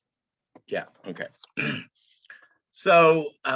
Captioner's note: clears throat